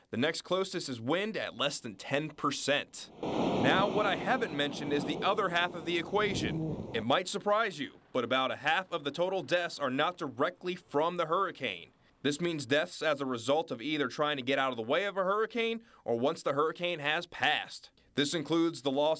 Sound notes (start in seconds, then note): 4.9 roaring wind